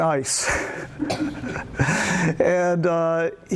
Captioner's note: laughs